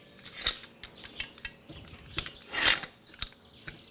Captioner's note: birds chirping